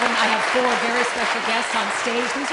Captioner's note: applause